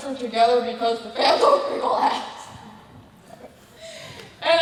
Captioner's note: laughs